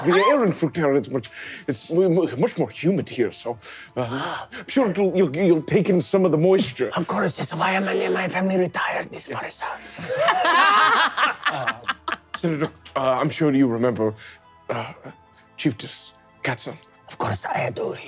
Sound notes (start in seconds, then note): 9.9 all laughing